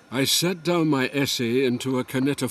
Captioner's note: Voz en off